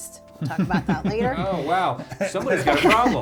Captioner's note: laughs